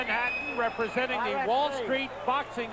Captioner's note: loud whistling & cheering